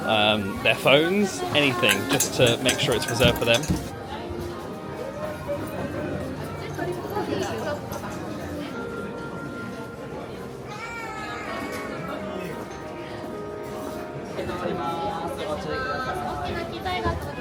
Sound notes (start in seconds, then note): 6.0 crowd murmuring; 9.1 soft music; 14.6 people chatting